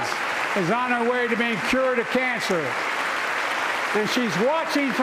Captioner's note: applause